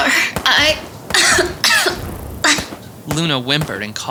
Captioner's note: Luna coughs